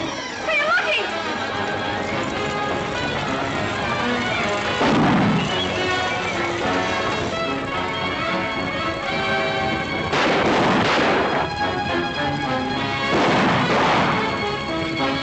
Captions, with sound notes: Señor Lucky. [ GUNSHOT ] [ GUNSHOTS ]